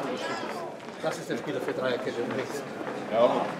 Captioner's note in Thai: นักเตะคุยกันเป็นภาษาเยอรมัน